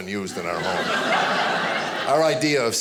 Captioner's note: audience laughing